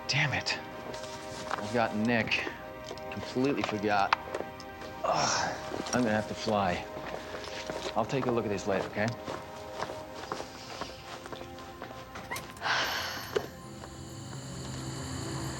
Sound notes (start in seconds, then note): 10.0 deep sigh